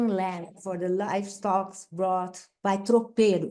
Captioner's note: speaks Portuguese